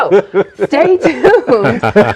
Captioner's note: laughing